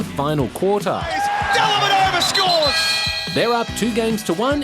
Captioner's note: whistle blows